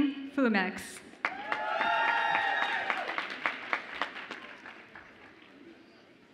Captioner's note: audience applauds and cheers